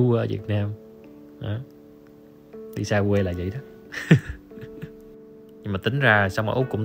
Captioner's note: giggle